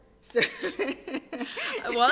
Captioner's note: laughs